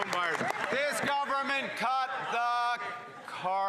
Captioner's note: cheers & Applause